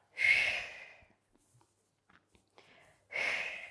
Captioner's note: breathing sharply